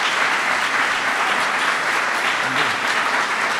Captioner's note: applause